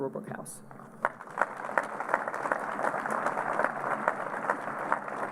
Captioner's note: applause